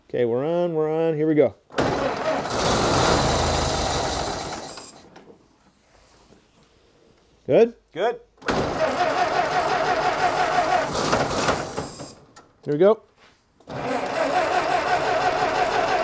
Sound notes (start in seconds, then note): 1.7 engine starts; 8.6 engine sputters; 13.7 engine sputters